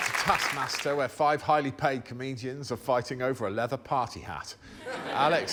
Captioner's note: applause